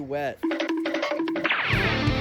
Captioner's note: cartoon running noise